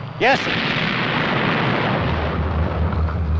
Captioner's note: explosions